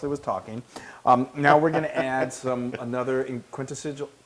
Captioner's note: laugh